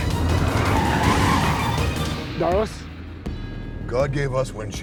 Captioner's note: tires screeching